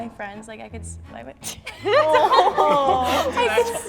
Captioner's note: laughs